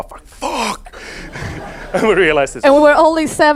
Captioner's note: audience laughs